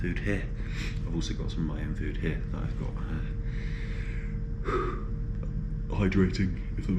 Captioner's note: yawns